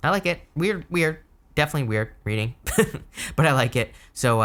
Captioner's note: laughing